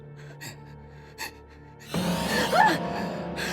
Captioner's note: sinister tone; screams